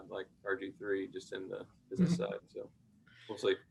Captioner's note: chuckles